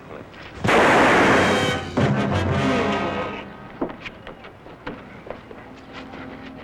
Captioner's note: weapon firing; dramatic music